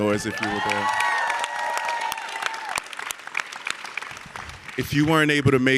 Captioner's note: audience cheering and clapping